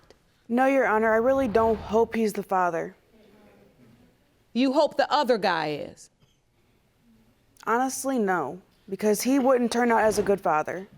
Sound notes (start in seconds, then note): none